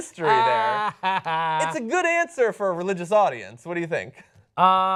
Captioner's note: laughter